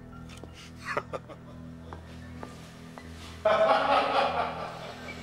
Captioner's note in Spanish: Zadrim riendo